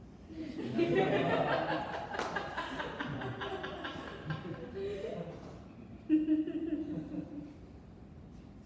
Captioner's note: audience laughs